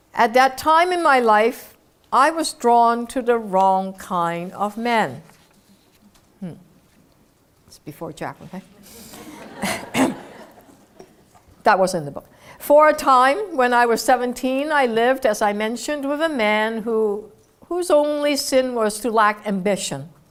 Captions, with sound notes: At that time in my life, I was drawn to the wrong kind of men. Hm. It's before Jack, okay? >> [LAUGH] >> [COUGH] >> That was in the book. For a time when I was 17, I lived, as I mentioned, with a man who, whose only sin was to lack ambition.